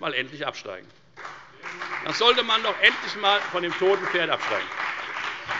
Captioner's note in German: Beifall bei der FDP